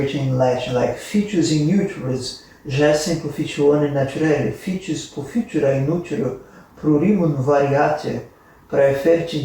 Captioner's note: in Latin